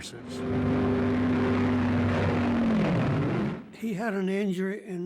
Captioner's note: airplane engines roaring